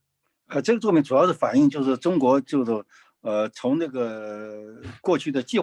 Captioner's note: speaking in foreign language